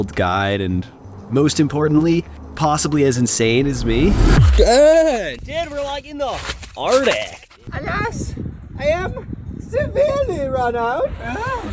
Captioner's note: goofy voice